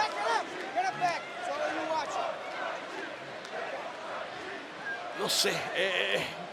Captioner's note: applause